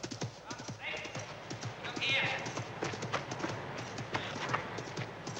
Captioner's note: man shouting indistinctly